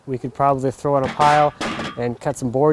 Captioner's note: metal clanks